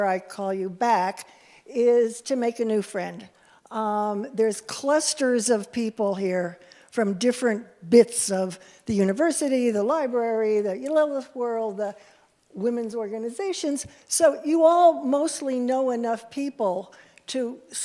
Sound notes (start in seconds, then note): 10.7 Hebrew